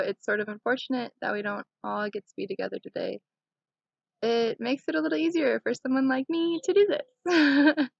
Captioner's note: laughting